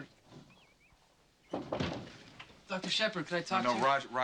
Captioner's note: knock at door; knocking